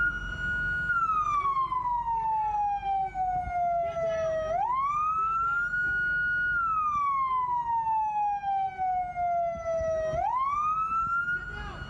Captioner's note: sirens